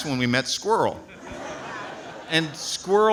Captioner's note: audience laughs